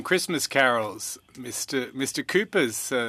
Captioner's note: speaking French